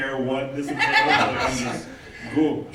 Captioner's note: laughing